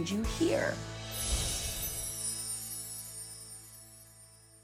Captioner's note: chimes ringing